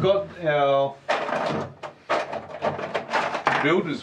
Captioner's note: scraping and clattering